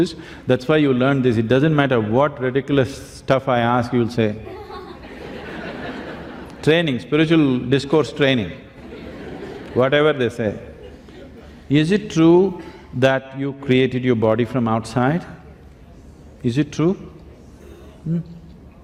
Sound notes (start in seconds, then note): 6.0 laughter